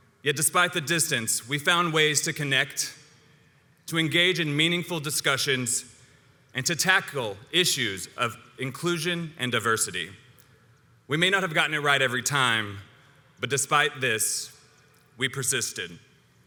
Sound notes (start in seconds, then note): none